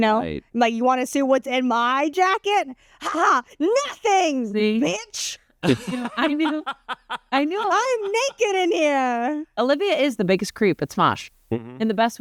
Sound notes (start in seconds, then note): 5.6 laughs